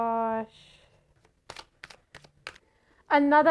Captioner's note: tarot shuffling